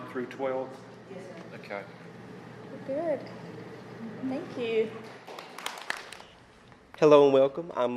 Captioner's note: applause